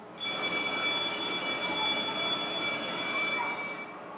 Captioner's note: bell rings